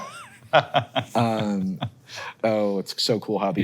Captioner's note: Hank chuckles